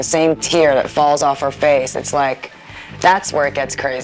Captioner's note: none